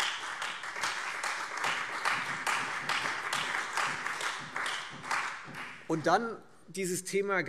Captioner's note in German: Beifall Freie Demokraten, CDU und BÜNDNIS 90/DIE GRÜNEN